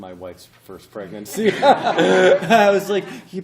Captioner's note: laughter